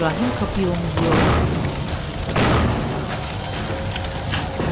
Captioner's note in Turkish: Kapıya vurma sesi